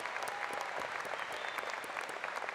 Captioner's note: applause